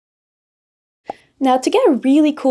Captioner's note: bubble pop